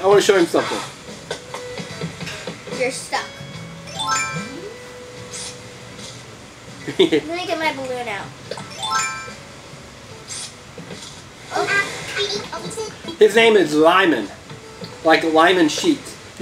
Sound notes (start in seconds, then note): 3.8 chimes as party horn appears; 6.9 chuckles; 8.7 chimes as balloon appears